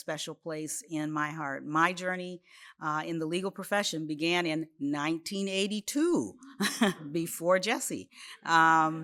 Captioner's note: laughs